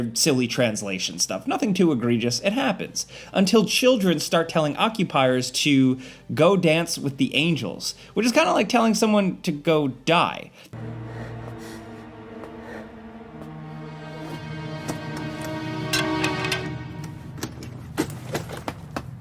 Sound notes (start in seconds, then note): 10.6 character heavy breathes; 10.7 tensed music; 15.6 cane clangs; 17.7 object thuds